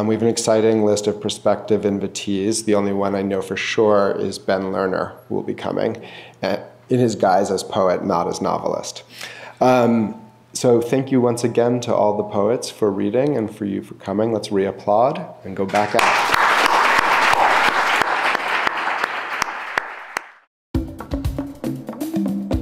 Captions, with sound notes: We've been exciting, the list of perspective invitees. The only one I know for sure is Ben Learner who will be coming. It is guised as poet, not as novelist. So, thank you once again to all the poets for reading and for you for coming. Let's re-applaud and go back up. (clapping) (upbeat music)